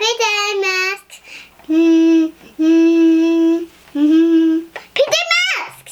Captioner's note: humming